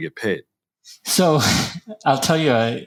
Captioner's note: laugh